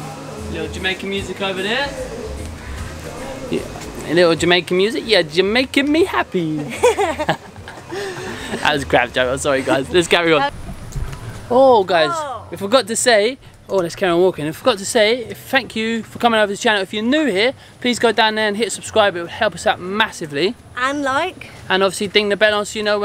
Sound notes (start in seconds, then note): 6.5 both laugh